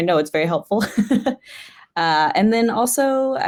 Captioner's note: chuckles